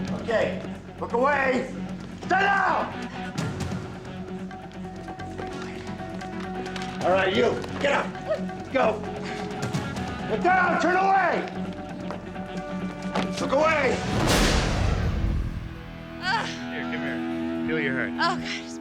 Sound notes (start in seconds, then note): 13.5 dramatic whooshing